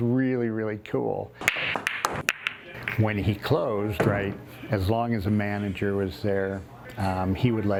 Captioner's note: striking of pool balls